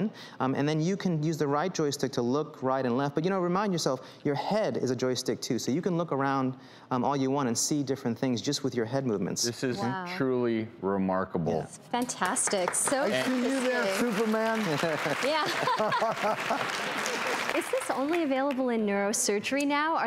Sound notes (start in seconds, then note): 14.6 laughing